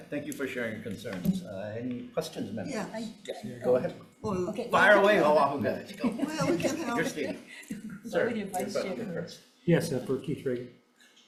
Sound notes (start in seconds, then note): 6.0 speaker chuckling